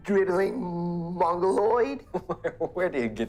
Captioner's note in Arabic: يضحك